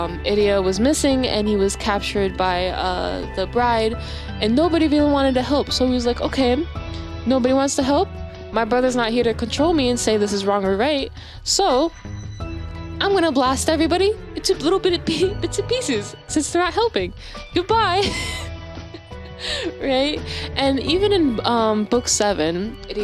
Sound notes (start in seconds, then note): 18.8 giggles